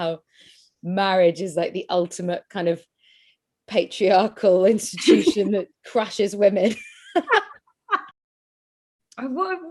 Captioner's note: laughing